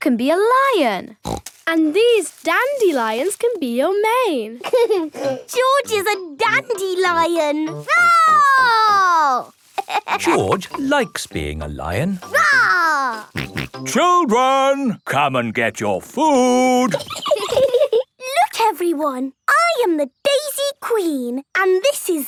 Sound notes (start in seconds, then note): 1.2 snorting; 4.6 George laughing; 8.8 roaring; 9.7 laughing; 12.8 roaring; 13.2 snorting; 16.8 giggling